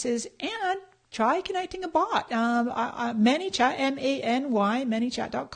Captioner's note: none